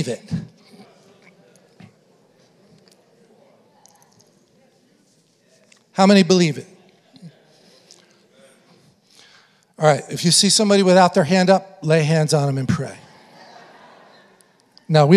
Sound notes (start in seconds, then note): 7.9 congregation affirming; 12.5 congregation laughing